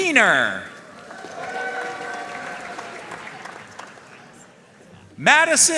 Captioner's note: audience cheering and applauding